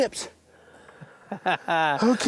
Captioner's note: laughs